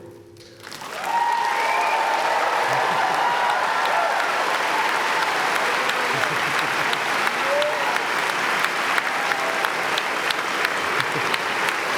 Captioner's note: applause